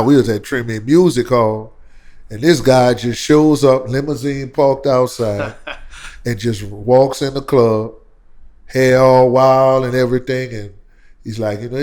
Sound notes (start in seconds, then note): 5.3 laughter